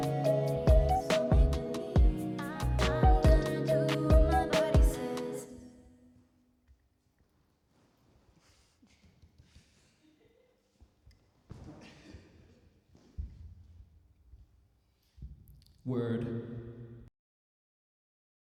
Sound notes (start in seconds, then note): 8.0 chair rustles; 11.9 laughs